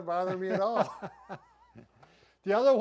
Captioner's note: both chuckling